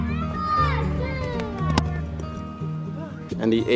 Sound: children cheering

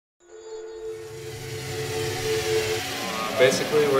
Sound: machinery noise

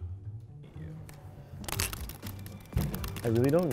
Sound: loud typing

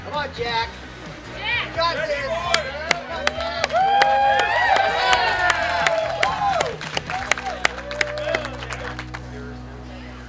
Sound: cheering & Clapping

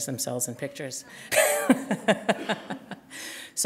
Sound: chuckle

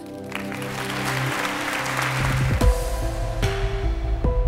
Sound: audience applauding; intense electronic music

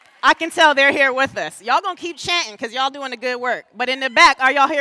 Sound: applause

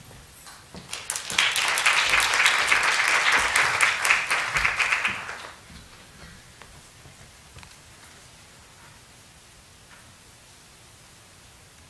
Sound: clapping

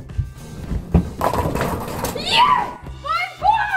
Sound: bowling pins crashing

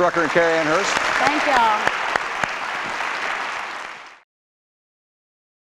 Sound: applause

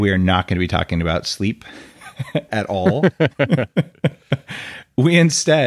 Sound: laughing

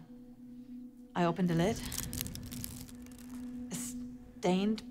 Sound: wicker basket crackling

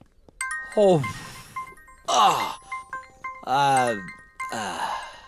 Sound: phone rings

